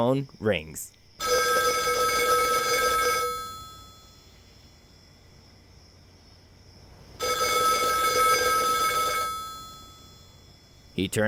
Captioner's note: sound of phone ringing